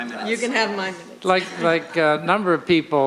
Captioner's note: voiceover